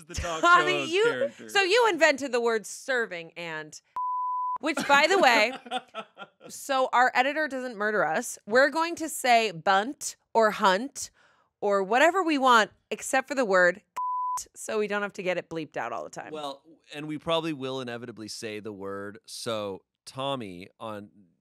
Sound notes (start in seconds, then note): 3.9 beep; 4.7 laughing; 14.0 beep